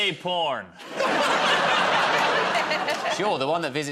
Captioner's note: laughter